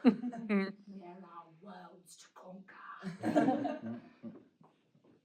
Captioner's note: audience laughter; with bad accent